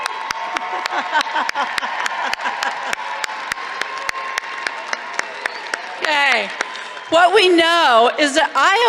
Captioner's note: applause